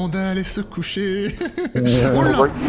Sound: laughs

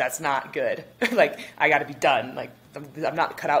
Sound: chuckles

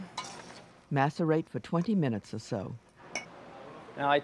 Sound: voiceover

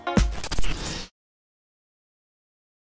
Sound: static fizzing

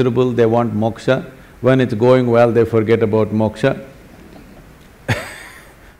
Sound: laughs

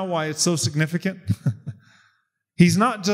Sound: laughs

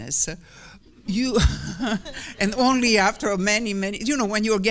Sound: laughs

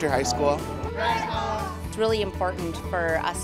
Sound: crowd

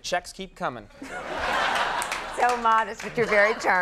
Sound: audience laughing

